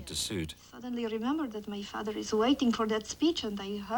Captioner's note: russian Accent